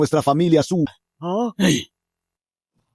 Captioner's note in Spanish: Suspiro